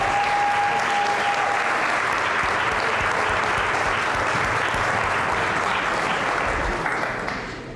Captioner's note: applause; applause, cheering